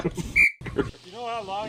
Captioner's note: laughing; whistle blows